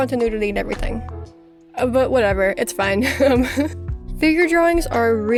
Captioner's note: giggles